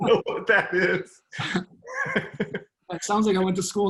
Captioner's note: laughing